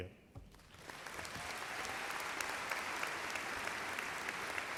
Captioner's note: audience applauds